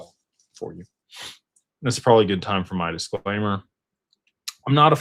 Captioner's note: snorts